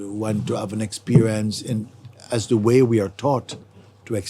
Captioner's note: none